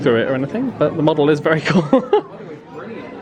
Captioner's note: laughs